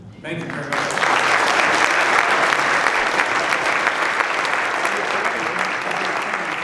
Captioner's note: applause